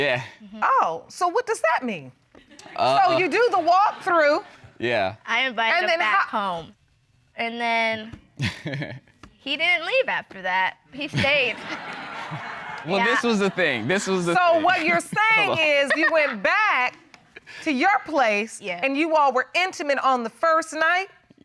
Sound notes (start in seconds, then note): 8.4 laughing; 11.1 audience laughing; 16.5 laughing